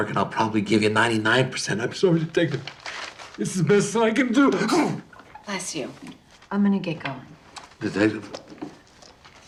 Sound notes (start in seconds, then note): 4.5 sneezes